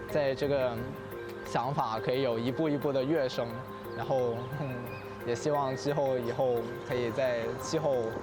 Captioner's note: speaking Chinese